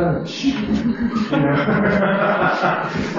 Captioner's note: laughter